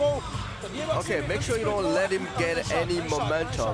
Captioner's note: speaking French